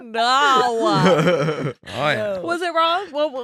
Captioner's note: laughing